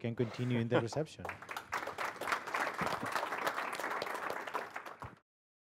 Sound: applause

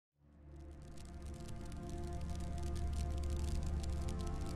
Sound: fire crackling

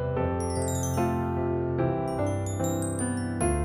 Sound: bell chimes

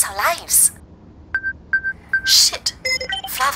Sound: personal alarm sounds

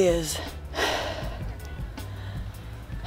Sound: labored breath

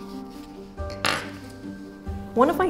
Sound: awl clatters; classical music

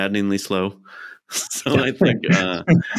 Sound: laughs

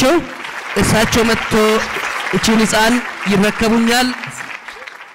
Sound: applause

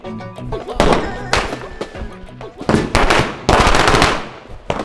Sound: crackers exploding

